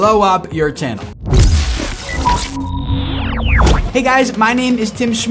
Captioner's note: futuristic computer sounds